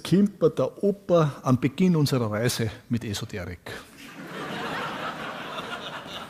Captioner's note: audience laughs